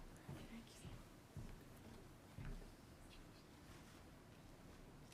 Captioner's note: speaking faintly